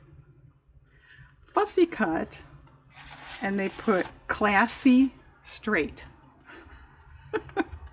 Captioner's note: laughs